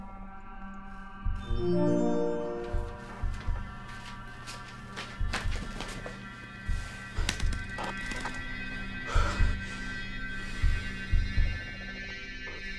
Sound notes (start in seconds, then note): 1.4 chimes of a computer starting up ring out; 7.2 keyboard clicks repeatedly; 8.9 heavy breathing